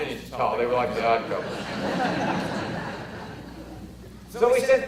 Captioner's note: audience laughter